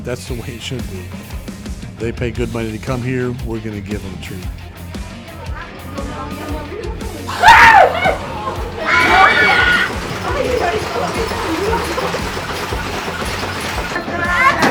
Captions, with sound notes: and that's the way it should be. They pay good money to come here. We're going to give them treat. [screams]